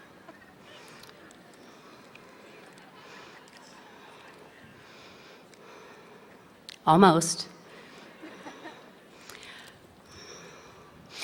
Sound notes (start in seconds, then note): 2.6 laughter; 4.1 moment of silence